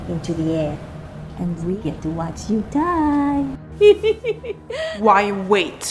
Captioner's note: laughing